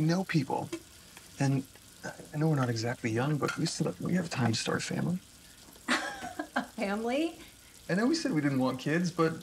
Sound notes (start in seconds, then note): 5.9 laughing